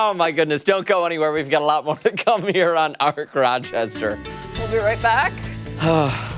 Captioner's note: laughter